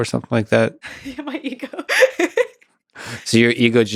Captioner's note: laughs